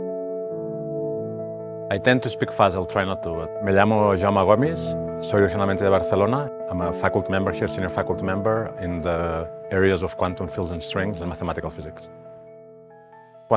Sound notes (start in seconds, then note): 3.7 speaking Spanish